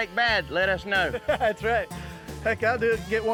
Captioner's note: chuckles